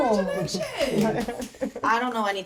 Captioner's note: friend laughing